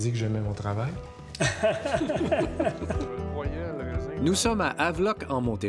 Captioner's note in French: rires